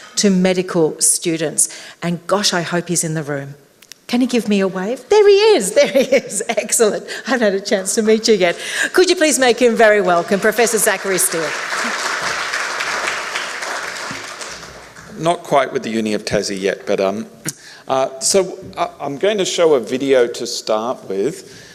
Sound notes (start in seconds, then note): 11.5 applause